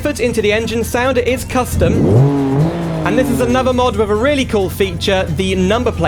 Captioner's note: engine Noise